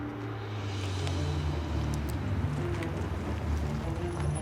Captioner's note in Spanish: sonido del motor